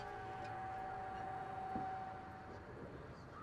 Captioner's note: none